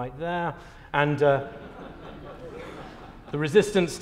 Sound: laughter

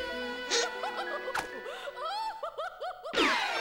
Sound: woman laughing

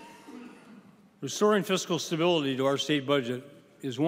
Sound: laughing

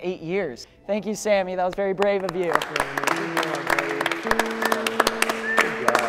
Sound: applause

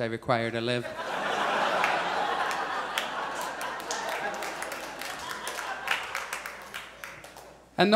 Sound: audience applauds

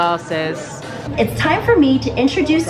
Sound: animatronic Voice

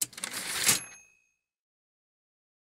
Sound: typewriter ding

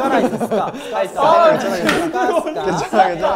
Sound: giggling

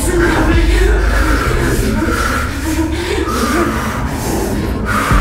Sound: heavy breathing

